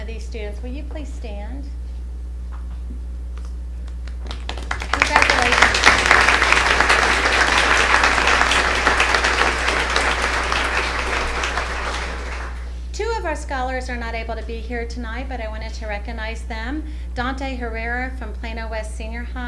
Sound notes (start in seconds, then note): 3.8 applause